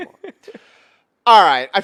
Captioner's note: laughs